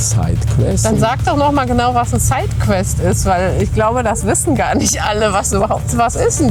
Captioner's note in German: räuspern